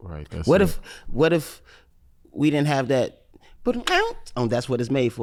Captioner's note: vocalizes